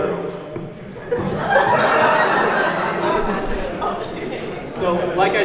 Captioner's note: audience laughs